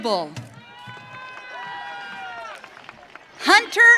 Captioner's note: audience cheering